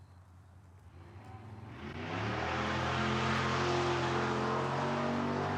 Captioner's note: car engine rumbling